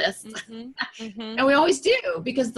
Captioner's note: laughs